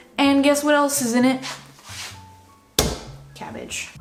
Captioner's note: slaps